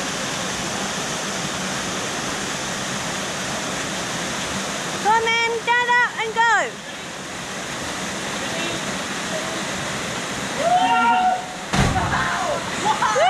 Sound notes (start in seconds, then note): 8.5 gushing water; 11.6 splash; 12.8 whooping and cheering